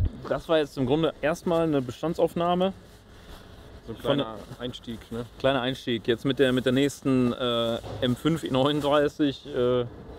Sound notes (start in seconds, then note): none